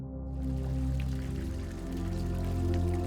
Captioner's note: in Malayalam